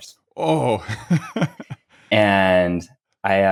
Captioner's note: laughs